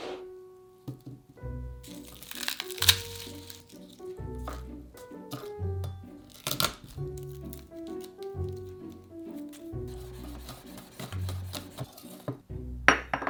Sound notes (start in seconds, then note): 1.8 garlic paper rustling; 4.9 knife smashing